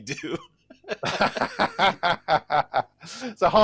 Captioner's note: laughter